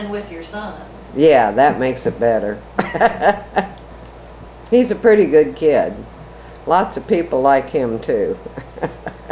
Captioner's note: laughs